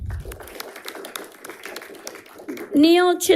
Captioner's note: audience applauding